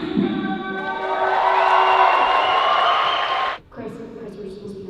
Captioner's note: cheers and applause